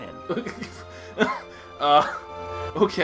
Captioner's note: laughs